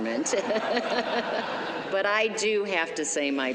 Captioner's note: laughter